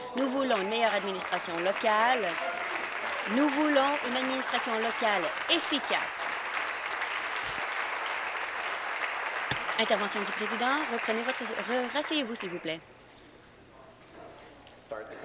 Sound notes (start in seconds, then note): 5.4 applause